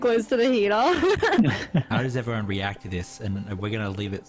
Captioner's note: laughs